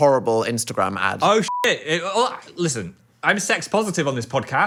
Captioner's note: beep